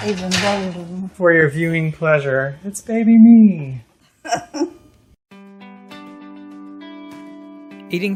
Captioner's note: laughs